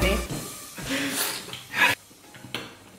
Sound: slurp

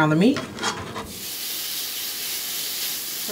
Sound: meat sizzles

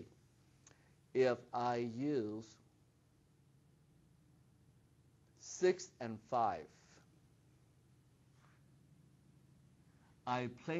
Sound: pause

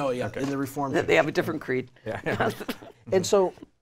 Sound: laughs

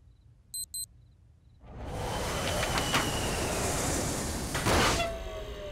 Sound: watch beeps; ship lands

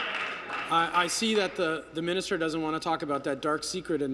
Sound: applause

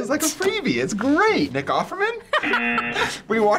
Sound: cracking up

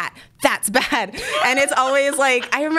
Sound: both laugh

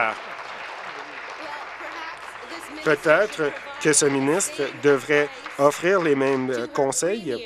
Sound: applause

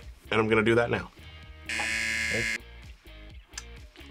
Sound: buzzer

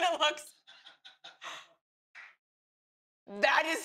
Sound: laughter

